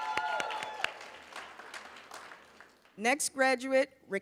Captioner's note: cheers, applause